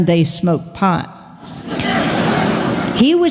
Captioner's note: laughter